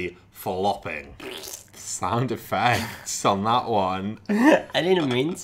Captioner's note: imitates fart